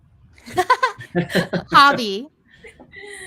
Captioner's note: laughs